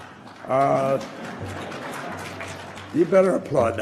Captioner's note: applause